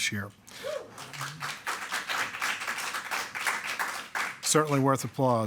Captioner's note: attendees clapping